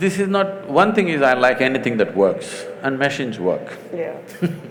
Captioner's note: laughs